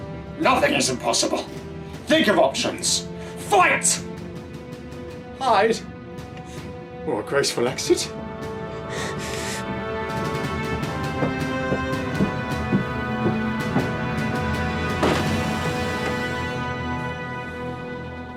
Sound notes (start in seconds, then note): 8.5 breathing heavily and closing eyes tight; 10.9 marching footsteps approaching; 15.0 door pushed open